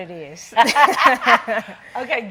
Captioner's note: laughing